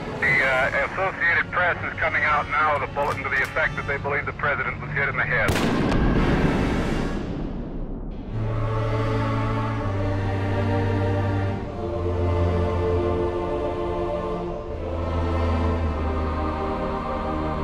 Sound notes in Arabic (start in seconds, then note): 8.3 انفجارات البندقية; 10.8 موسيقى حزينة ومؤثرة